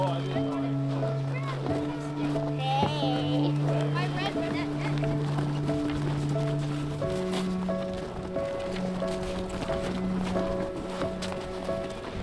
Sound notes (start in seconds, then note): 0.0 people chatting; 0.2 gentle music continues; 3.3 kids chatting